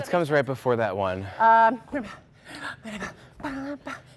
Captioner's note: breathing hard